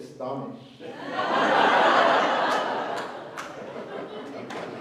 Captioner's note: laughhter